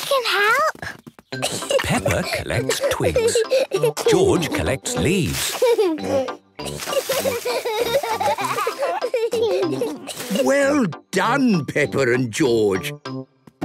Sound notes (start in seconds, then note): 1.5 giggling; 4.9 laughing; 6.6 kids giggling